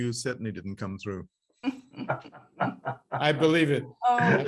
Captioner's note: laughs